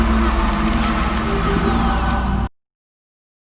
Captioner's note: beeping